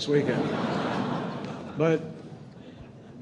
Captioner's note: laughter